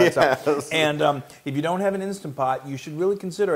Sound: laugh

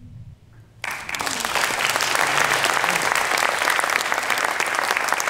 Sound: clapping

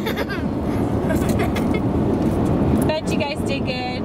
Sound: laughter

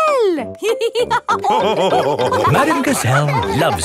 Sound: all laughing

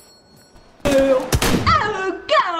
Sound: bang

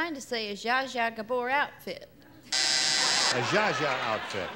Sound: buzzer

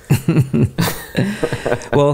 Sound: both chuckling

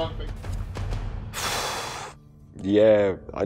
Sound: sigh

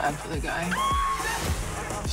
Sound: screams

